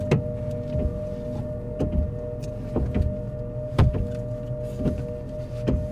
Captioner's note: hands smack on hood of car